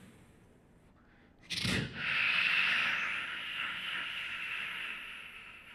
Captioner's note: beatboxing